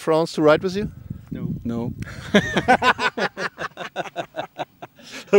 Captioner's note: laughter